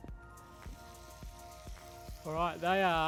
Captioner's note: ribs sizzle